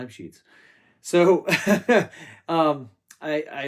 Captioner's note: laughs